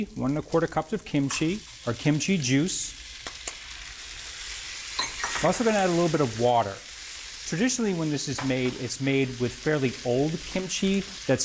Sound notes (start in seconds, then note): 3.1 skillet sizzling